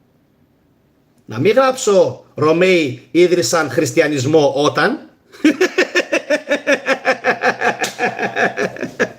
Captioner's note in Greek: γέλια